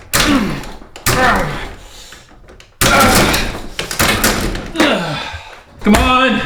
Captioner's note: manny groans and grunts